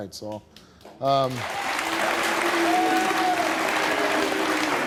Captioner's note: audience applaud